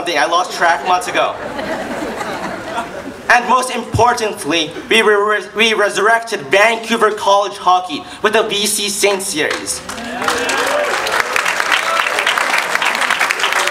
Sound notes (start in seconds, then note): 9.4 claps